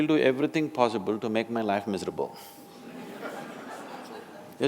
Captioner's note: laughter